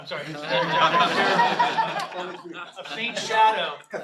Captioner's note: laughter